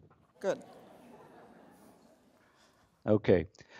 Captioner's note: laughter